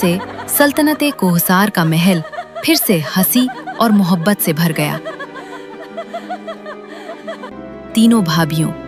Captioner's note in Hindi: रोने की आवाज़; हंसी